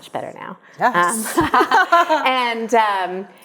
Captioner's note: both laugh